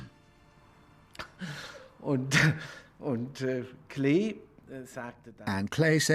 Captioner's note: chuckling